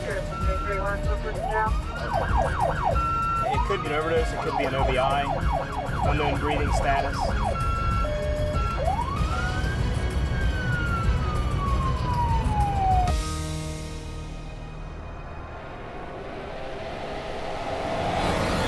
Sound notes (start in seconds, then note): 0.0 police radio; 1.0 sirens; 8.0 ambulance and police sirens; 15.8 dramatic music